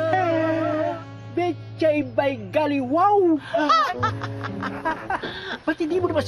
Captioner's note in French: chuckles